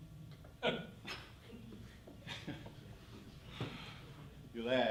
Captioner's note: laughing